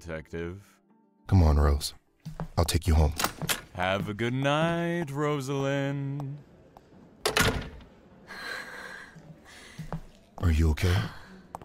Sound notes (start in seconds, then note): 7.2 door closes; 8.3 gasps